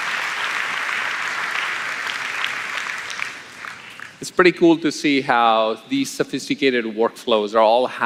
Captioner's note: applause